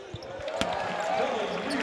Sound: applause

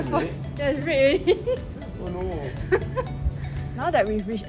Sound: laughs

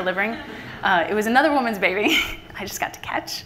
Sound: laughter from the audience; laughs

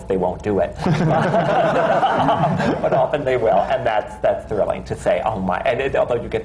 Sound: laughter

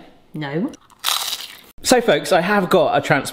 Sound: chip crunching

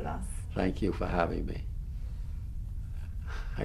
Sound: laughs

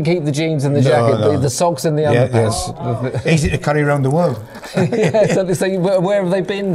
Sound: laughing

